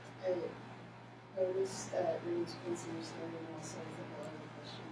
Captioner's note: speaking off microphone